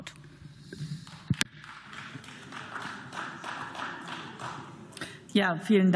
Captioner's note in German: Beifall